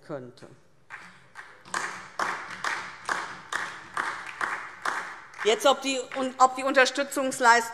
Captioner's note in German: Beifall DIE LINKE und vereinzelt SPD